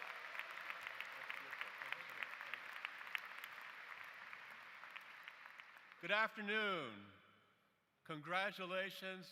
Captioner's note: applause